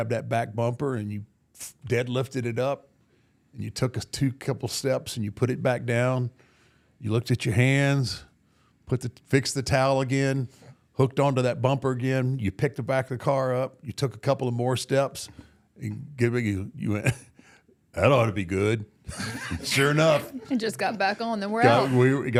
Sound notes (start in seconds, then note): 19.1 all laugh